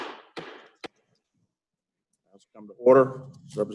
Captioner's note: bangs Gavel